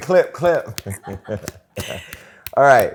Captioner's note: laughter